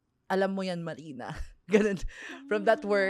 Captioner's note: laughs